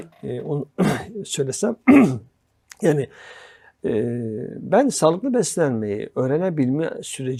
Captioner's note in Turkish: boğazını temizler